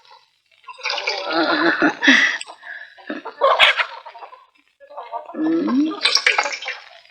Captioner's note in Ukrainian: сміх